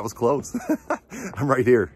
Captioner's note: laughing